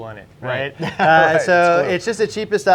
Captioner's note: laughs loudly